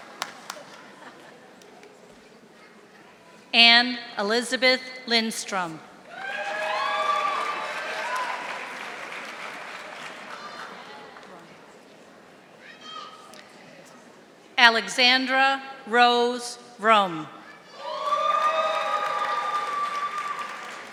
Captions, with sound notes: Anne Elizabeth Lindstrom. (audience applauding) Alexandra Rose Rome. (audience applauding)